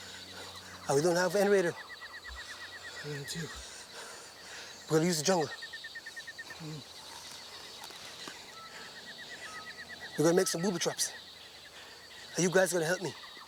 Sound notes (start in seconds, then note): 2.9 muttering